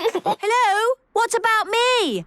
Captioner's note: giggles